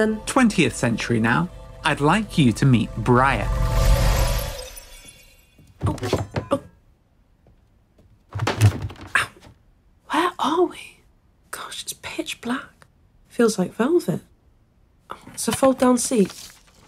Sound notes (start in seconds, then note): 3.8 time travel whoosh; 5.6 scuffles and bumps, someone navigates in the darkness